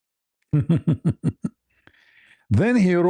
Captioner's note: ketawa